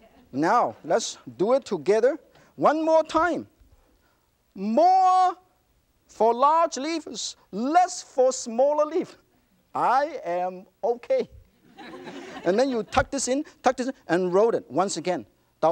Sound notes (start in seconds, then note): 11.6 audience laughter